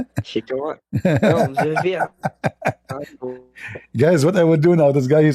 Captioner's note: Ketawa